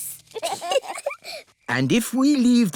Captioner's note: both giggle